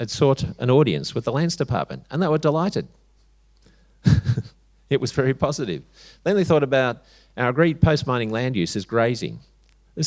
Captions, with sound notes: had sought an audience with the Lands Department and they were delighted. (chuckles) It was very positive. Then they thought out about, our agreed post mining land use is grazing.